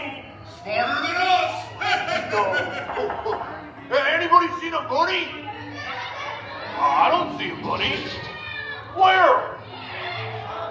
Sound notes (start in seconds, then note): 1.6 laugh; 5.7 audience exclaiming